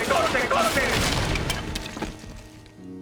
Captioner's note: crash